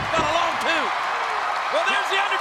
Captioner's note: audience cheers